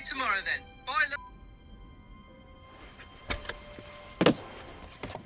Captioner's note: phone beeping